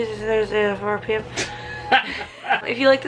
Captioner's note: laughing